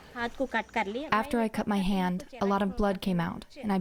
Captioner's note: through translator